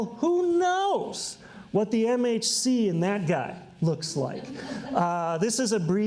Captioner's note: audience laughs